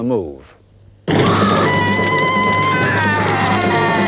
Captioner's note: screaming